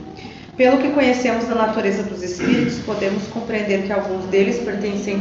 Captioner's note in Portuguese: limpando a garganta